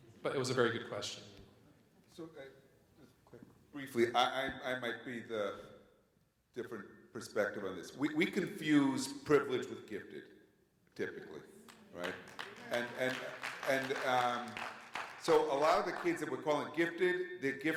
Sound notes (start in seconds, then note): 11.6 audience applauds